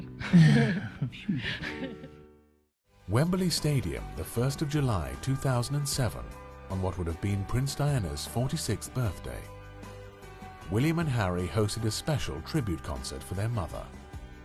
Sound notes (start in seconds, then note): 0.2 laughing; 2.7 voiceover